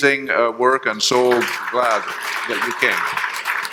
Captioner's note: audience appluading